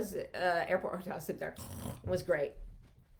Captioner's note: snores